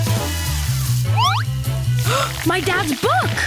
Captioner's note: gasping